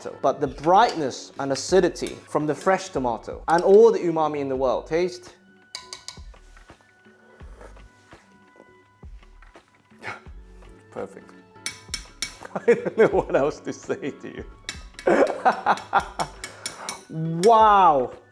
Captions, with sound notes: But the brightness and acidity from the fresh tomato and all the umami in the world. Taste. Perfect. I don't know what else to say to you. [laughs] Wow!